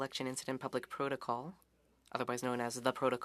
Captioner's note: speaking French